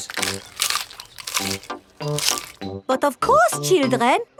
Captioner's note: munching